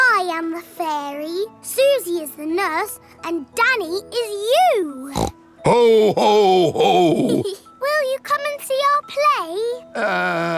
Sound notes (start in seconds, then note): 5.1 snorts; 7.3 giggles